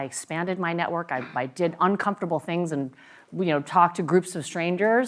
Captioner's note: cough